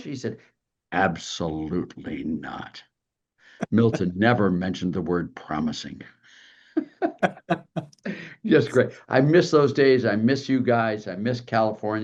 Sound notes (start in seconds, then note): 6.8 laugh